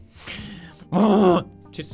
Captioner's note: groan